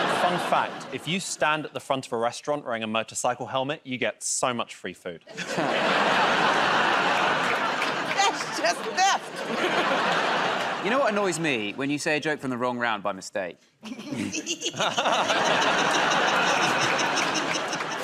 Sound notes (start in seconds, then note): 0.0 laughter; 5.3 laughter and applause; 9.1 laughter; 14.2 laughter and applause